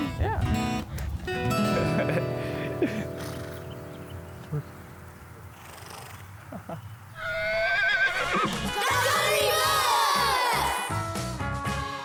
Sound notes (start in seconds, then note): 4.4 laughing; 7.1 horse neighs